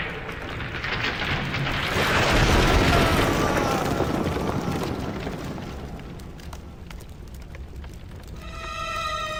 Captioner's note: rocks falling and Samuel screaming; tense music